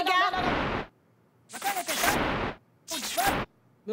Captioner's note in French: Grésillements